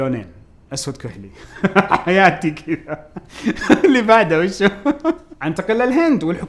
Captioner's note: laughs